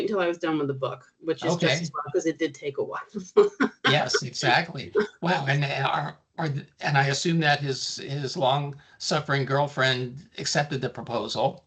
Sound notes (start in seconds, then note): 3.6 chuckling